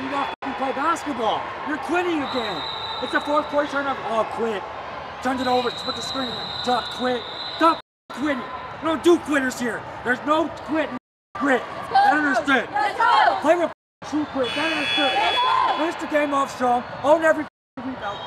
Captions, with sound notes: that ******* play basketball. You're quitting again. It's the fourth quarter, turnover oh, quit. Turn it over, split the screen, you're gonna quit. Stop ******* quitting. We don't do quitters here. There's no quit in ******* grit You understand? Play with ******* true grit (buzzer) - Yeah, yeah. Finish the game off strong, own every ******* rebound.